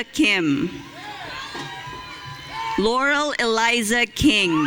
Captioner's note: audience cheering